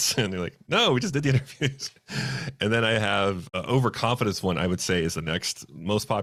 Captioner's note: laughs